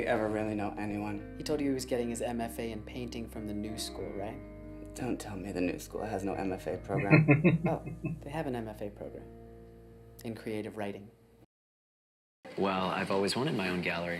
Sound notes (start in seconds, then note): 6.9 chuckling